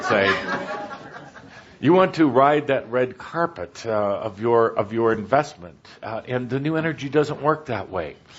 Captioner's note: laughter